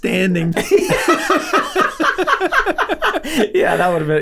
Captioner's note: laughing